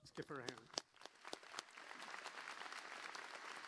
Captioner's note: applause